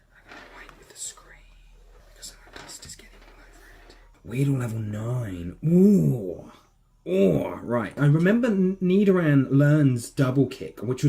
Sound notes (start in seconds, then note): 0.2 whisper